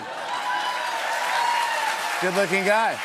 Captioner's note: cheers and applause